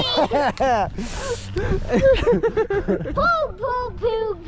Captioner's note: laughter